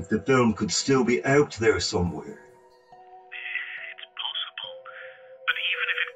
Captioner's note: on phone